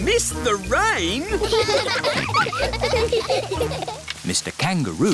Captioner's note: all laughing